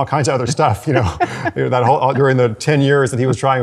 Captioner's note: laughs